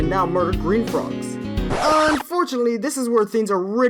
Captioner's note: record scratch